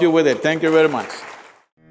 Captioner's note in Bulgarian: Ръкопляскания